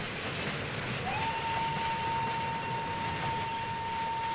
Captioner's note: whistle blows